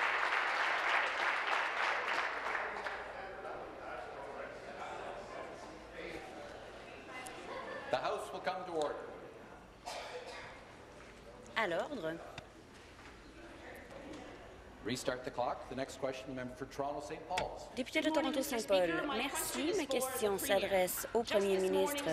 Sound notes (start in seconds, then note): 7.4 conversation din